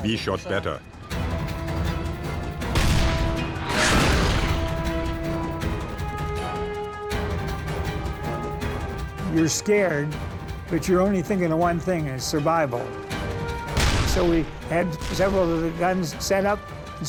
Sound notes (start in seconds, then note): 2.6 tank turret firing; 2.7 shell exploding